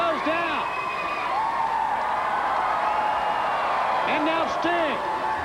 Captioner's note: audience cheering